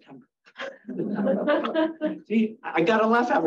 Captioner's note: audience laughing